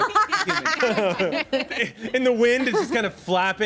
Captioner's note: everyone laughs